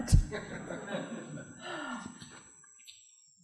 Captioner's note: nervously laughing